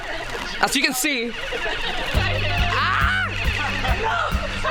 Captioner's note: laughter